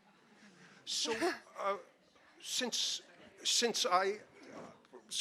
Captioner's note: audience laughing